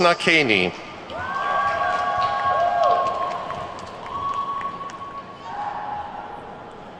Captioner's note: attendees whooping and clapping